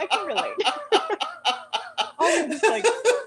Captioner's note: laughter